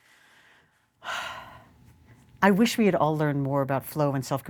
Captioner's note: sighs